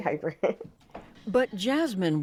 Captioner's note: laughter